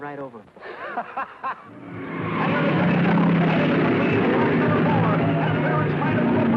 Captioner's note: racer laughing; announcer shouting; cars revving